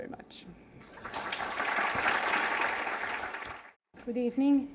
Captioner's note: applause